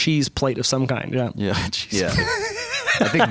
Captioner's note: laughter